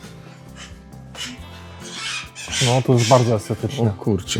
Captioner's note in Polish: płacz